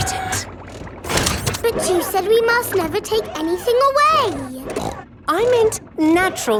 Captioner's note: snorts